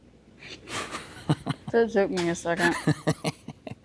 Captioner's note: laughing